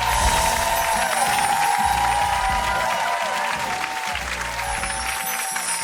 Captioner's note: sparkling; cheers and applause continue